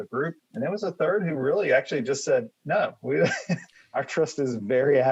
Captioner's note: laughs